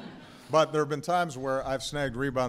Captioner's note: laughter